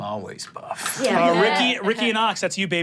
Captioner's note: everyone laughs